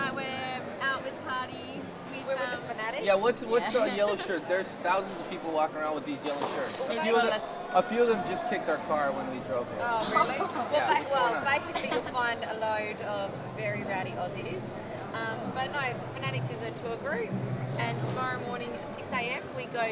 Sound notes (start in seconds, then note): 10.0 laughing